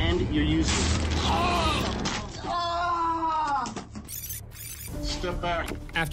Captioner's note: screaming